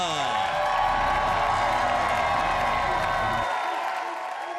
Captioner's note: audience applauds; audience cheers